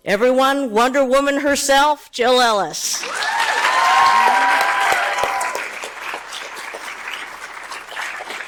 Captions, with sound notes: - Everyone Wonder Woman herself Jill Ellis. (audience cheers)